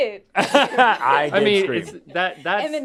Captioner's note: laughing